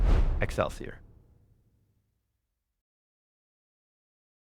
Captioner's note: graphics whooshing